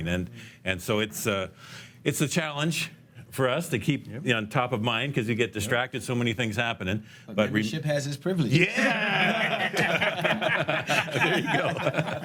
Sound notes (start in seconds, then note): 8.6 laughs